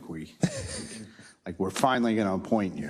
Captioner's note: laugh